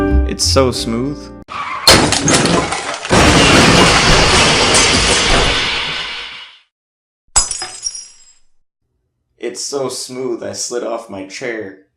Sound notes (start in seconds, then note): 1.7 crashing sounds; 7.3 glass breaking